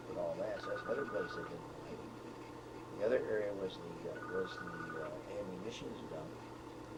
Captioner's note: telephone rings